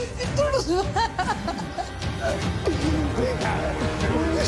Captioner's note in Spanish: Sollozos